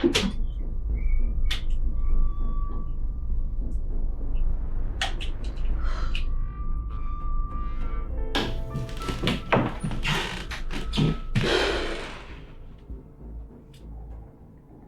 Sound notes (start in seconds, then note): 8.3 floor creaking; 11.6 Jessie exhales